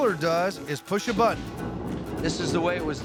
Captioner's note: rumbling sound